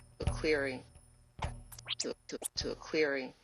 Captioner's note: tape rewinds